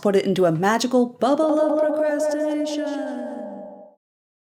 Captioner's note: echoing